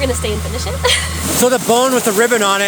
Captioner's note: laughing